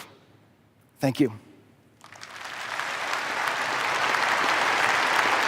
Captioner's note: applause